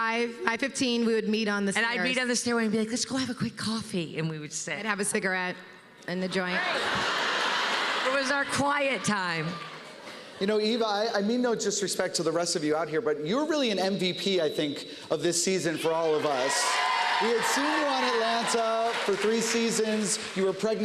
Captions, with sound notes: 5. 5:15 we would meet on the stairs. And I'd meet on the stairway and be like, "Let's go have a quick coffee," and we would sit. And have a cigarette and a joint. -Right. -[laughter] It was our quiet time. You know, Eva, I mean no disrespect to the rest of you out here, but you're really an MVP, I think, of this season for all of us. [cheers and applause] We had seen you on Atlanta for three seasons.